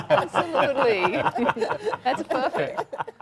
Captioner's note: panelist laughing